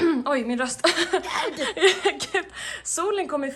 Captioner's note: laughing